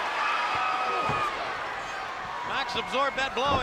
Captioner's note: spectators cheering